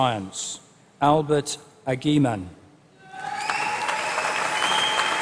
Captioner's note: applause